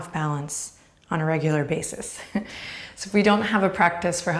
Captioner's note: chuckles